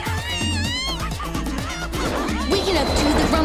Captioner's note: air whooshing; child screams